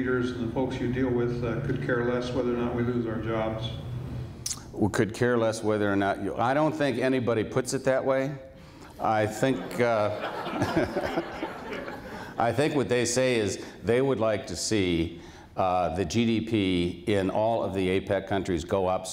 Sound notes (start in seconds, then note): 9.4 laughs; 9.4 laughter